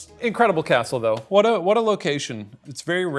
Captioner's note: none